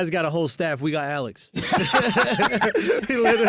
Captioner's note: laughs